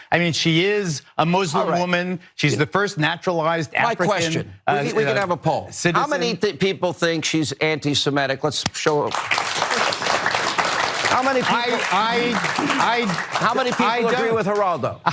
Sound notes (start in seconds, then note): 8.8 applause